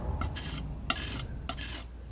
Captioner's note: metal scraping